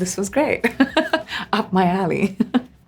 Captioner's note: Priyanka laughs